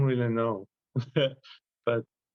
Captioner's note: laugh